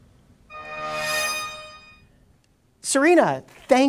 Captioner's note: buzzes